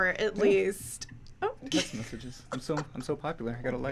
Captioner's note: laughs